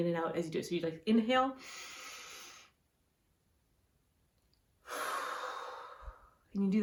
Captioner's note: hold and then exhale